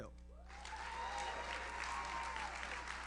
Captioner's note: audience cheers; audience applauds